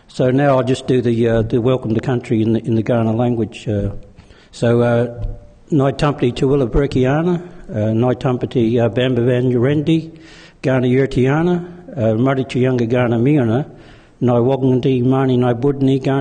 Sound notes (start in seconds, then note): 5.5 speaking in foreign language